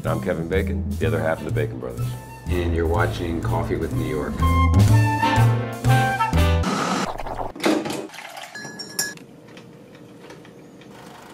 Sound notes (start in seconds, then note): 5.3 jazz music; 8.4 glasses clink